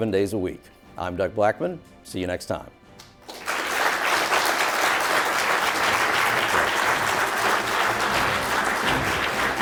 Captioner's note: applause